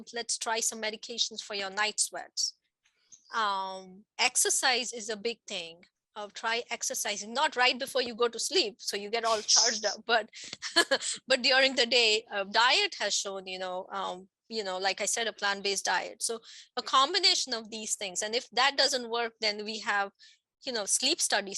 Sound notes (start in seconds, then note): 9.3 laughs